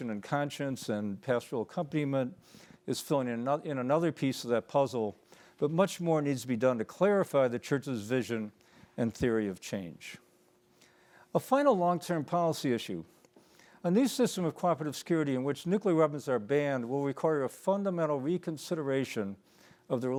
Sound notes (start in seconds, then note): none